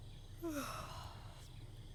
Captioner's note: yawns